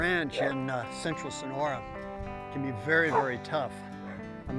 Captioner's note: dog barks